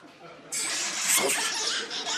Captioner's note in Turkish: Papağan sesi